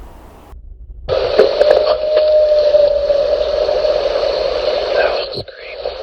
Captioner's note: distorted recording of howls